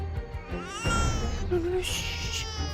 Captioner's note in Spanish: Llanto de bebé